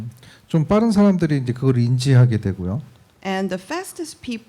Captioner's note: speaking korean